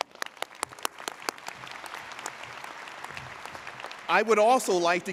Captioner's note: audience applauding